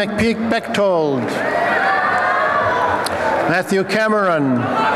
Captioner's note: applause and cheering